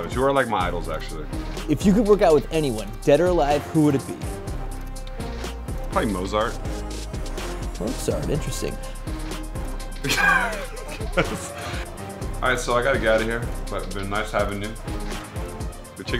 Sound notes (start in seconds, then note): 10.0 laughs